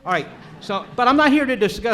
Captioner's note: audience laughs